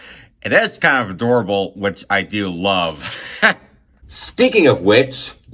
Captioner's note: chuckles